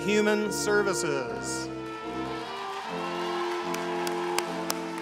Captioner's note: applause